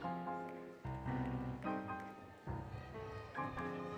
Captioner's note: applause, Music; cheering, Music